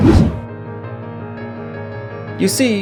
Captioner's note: whoosh